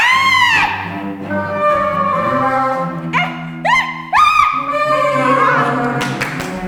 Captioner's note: layered clapping, stomping, laughter